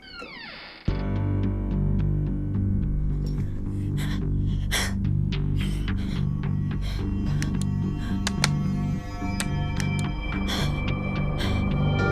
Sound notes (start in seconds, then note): 0.0 door creaks; 0.1 ominous music; 8.0 torch clicks